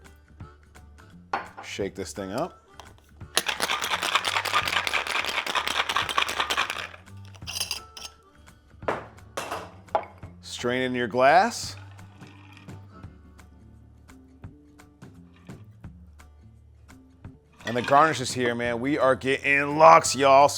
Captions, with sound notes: shake this thing up. (ice rattles) Strain in your glass, (country music continues) and the garnishes here, man, we are getting luxe, y'all.